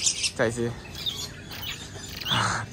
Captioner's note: weird bird sound